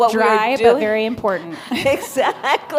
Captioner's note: laughter